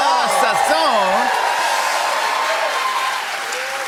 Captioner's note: cheers and applause